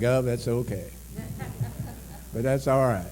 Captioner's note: laughter